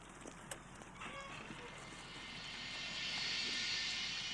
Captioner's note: door creaks; soft music